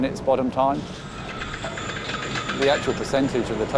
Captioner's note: chains clanking